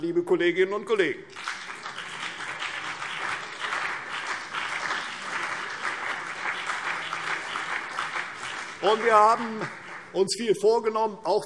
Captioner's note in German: Beifall CDU und BÜNDNIS 90/DIE GRÜNEN